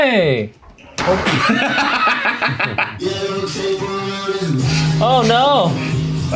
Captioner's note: laugh